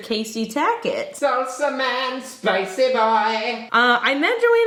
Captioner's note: voiceover